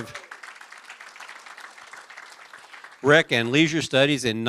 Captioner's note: applause